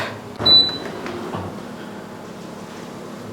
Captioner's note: speaker noise